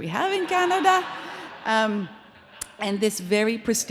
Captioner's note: audience laughs